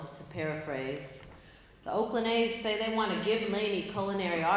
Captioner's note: none